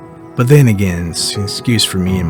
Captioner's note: voiceover